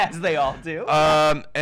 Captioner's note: laughs